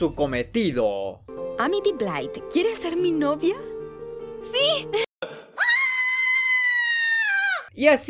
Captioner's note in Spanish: Gritos de perra loca